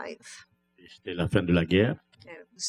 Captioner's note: speaking french